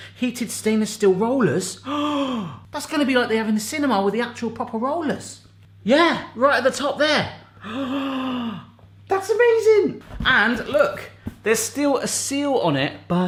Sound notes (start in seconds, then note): 1.8 gasping; 7.5 gasping